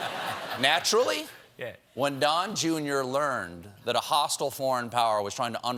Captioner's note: laughter